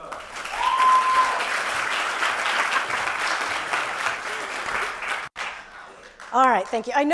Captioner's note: applause